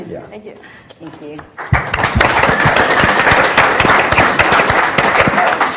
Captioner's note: audience applauds